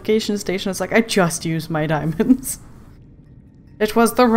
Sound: laughs

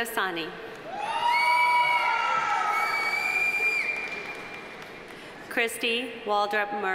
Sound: audience cheering; audience applauding

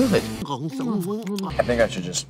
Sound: gobbling

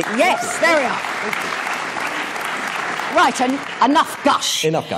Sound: applause

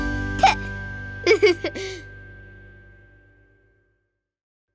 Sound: Finny giggling

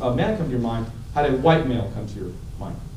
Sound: none

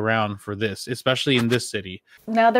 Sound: whooshing

